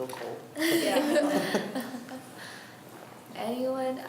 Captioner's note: laughs